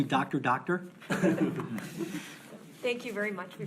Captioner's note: board laughs